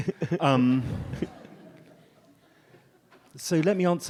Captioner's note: audience laughs